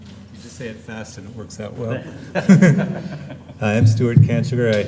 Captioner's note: laughter